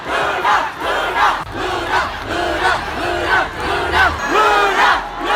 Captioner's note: crowds cheering ' ' repeatedly